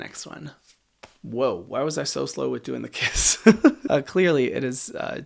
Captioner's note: laughs